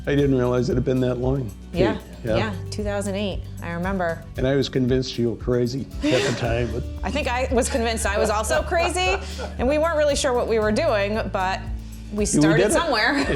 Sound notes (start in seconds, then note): 6.0 laughs; 8.6 laughing